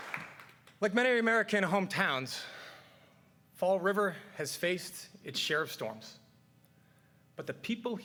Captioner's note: cheers and applause